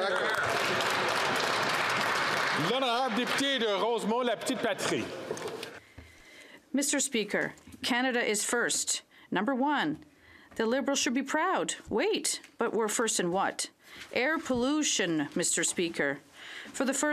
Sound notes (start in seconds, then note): 6.9 speaking French